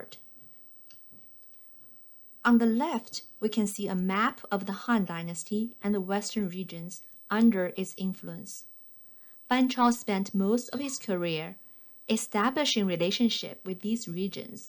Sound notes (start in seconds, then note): 0.8 click